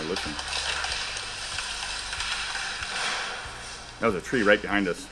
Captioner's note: branches snapping